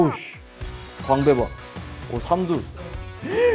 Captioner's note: impressed; gasp